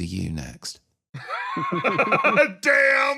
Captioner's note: laugh